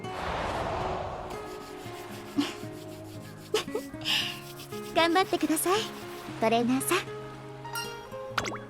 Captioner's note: laughs